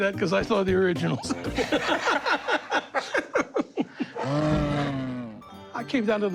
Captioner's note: laughter